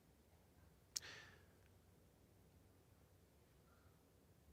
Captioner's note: none